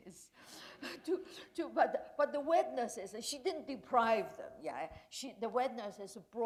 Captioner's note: chuckle